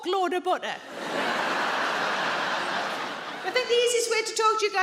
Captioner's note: audience laughs